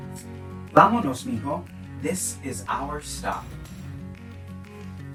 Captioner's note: speaking in Spanish